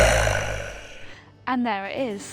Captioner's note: lion Roar